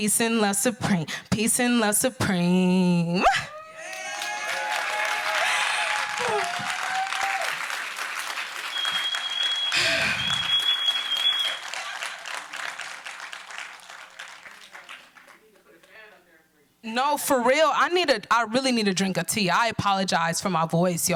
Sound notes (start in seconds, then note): 3.5 cheers and applause